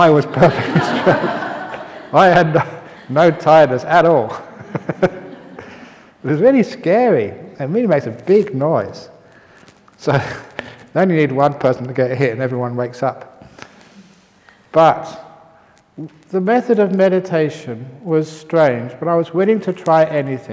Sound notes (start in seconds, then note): 0.4 laughter; 4.5 laughs; 9.7 chuckle